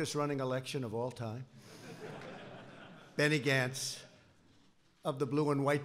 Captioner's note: laughter